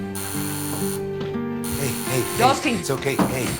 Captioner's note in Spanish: Suena el timbre